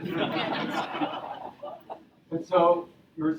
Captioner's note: audience laughing